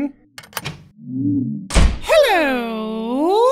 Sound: door opens and closes

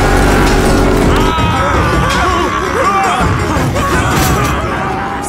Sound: screaming

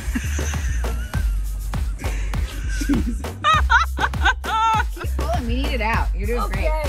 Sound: laughing

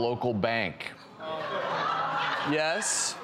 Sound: audience chatter

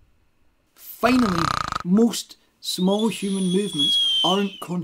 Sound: snore... whistle

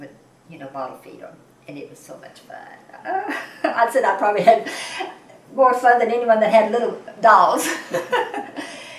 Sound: laughs

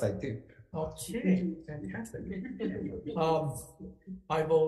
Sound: committee members chuckle

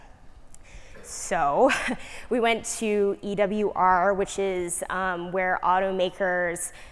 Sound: laugh

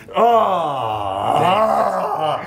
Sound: laugh

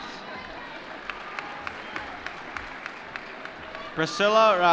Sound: applause

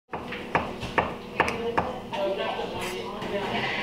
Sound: chopping

